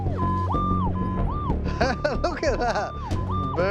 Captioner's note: laughs